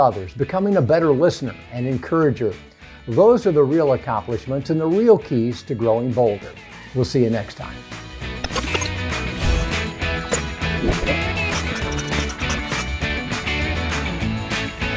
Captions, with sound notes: becoming a better listener and encourager. Those are the real accomplishments and the real keys to growing bolder. We'll see you next time. (upbeat music) (graphics whoosh)